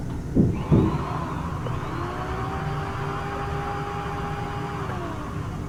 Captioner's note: muffled drill buzzing